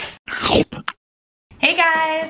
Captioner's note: chomp